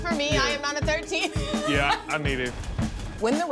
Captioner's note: laughing